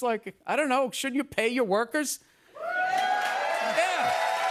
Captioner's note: cheers and applause